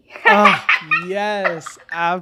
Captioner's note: person laughing